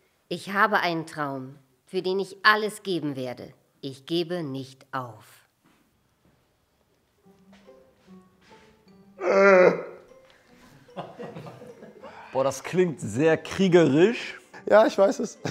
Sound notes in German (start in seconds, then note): 7.2 Abwartende Musik; 10.8 Leises Lachen